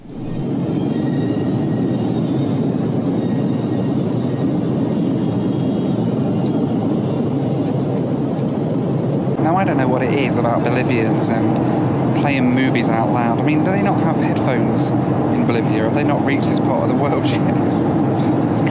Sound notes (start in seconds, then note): 0.5 engine roaring